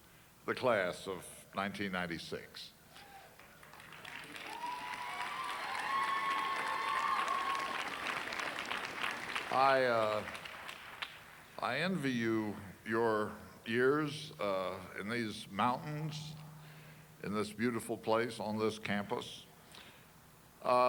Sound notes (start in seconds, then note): 4.7 cheers and applause